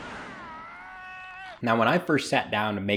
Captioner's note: man shouting